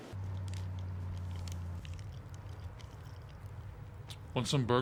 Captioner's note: car engine humming